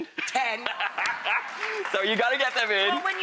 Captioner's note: laughter